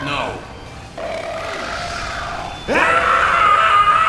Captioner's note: more of spy burping aggressively in the background